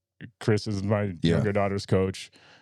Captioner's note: laughing